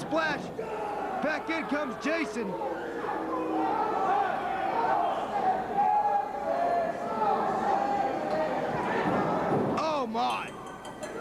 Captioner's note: crowd chattering